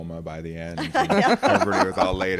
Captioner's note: laughs